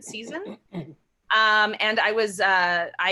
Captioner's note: clears throat